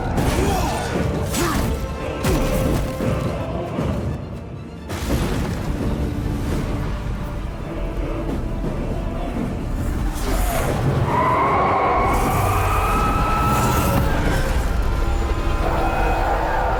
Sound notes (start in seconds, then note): 6.6 screaming